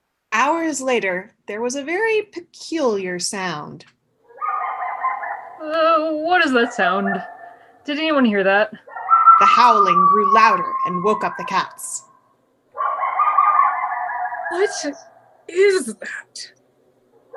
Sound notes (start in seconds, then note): 4.3 coyote howling sound effect; 5.3 shuddering; 11.2 howling sound effect continues